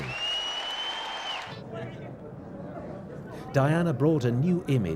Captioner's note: cheering and whistling